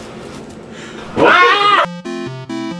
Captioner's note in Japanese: 奇声